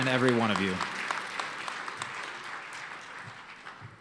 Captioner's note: applause